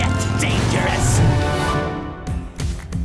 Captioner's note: engine revs